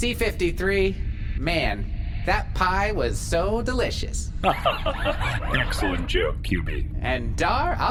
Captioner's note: laughs